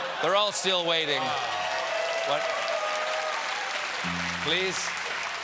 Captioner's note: applause